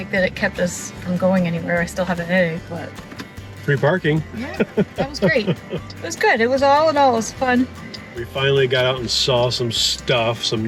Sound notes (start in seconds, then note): 4.4 laughs